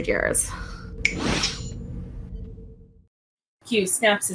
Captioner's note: snap and q flash